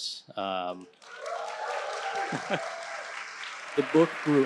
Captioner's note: audience applauding